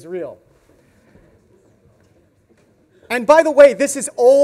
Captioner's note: audience murmurs